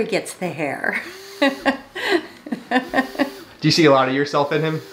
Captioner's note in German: lacht